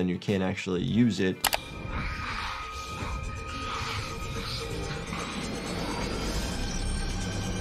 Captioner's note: tense music crescendos; ominous hissing